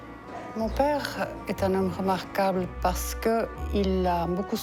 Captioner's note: speaking foreign language